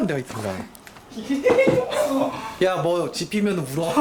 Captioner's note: listen to laugh ㅋㅋㅋㅋㅋ